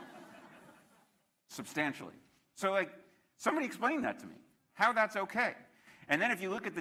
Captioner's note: laughter